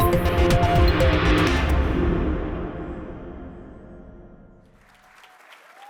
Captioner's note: applause